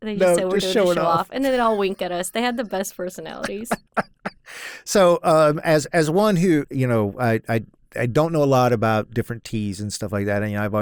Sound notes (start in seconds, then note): 3.3 laughs